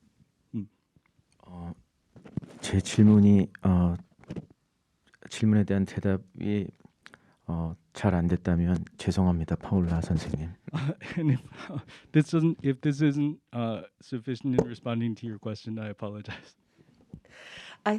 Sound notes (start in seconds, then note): 2.9 speaking in Korean; 10.6 laughs